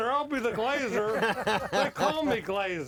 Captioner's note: laughs